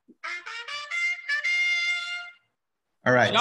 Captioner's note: soundboard trumpeting